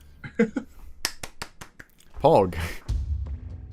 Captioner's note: applauding